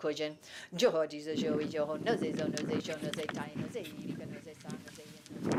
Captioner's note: chanting continues; wind rustles over chants